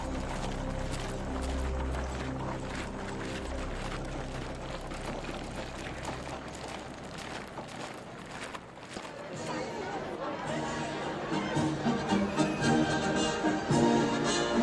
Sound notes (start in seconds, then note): 10.1 indistinct chatter; 12.0 military music